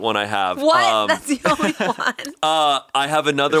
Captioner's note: laughs